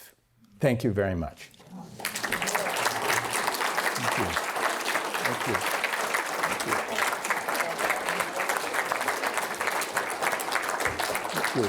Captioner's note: applause